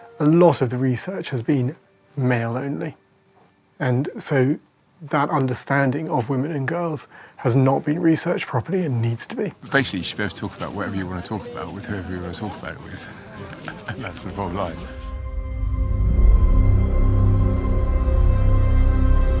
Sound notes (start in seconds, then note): 13.3 laughs; 16.5 dramatic music